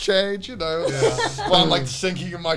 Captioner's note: all laughing